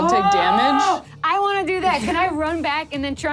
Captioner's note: yells